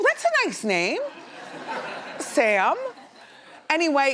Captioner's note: laughs